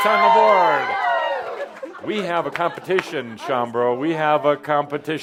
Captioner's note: some applause; audience approval